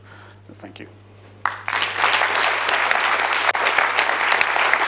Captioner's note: applause